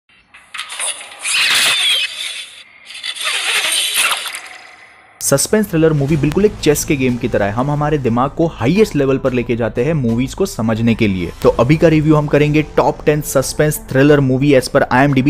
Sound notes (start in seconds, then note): 0.4 zip line slips